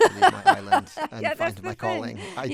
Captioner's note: laughter